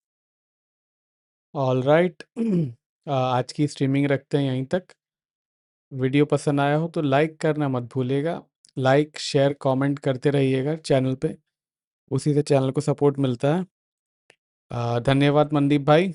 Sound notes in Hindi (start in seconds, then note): 2.3 गला साफ़ करने की आवाज़